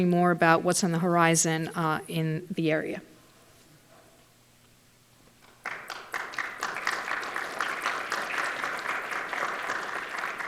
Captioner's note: applause